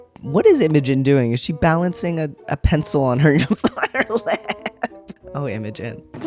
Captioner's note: laughter